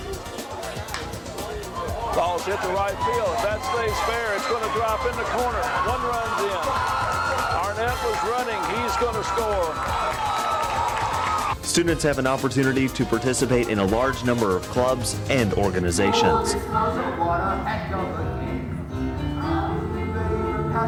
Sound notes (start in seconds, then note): 1.2 baseball bat thwacks; 9.8 audience applauding and cheering